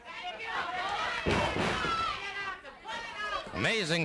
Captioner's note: crowd yelling